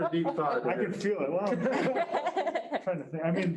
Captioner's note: group laughing